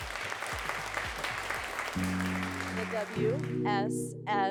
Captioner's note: all applauding